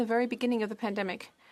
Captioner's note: speaking French